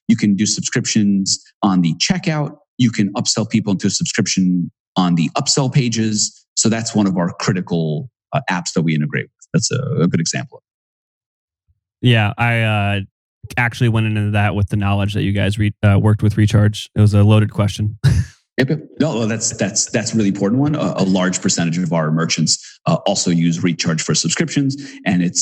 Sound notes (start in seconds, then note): 18.0 laughs